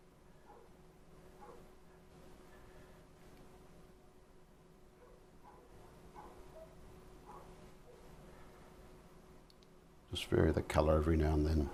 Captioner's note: silence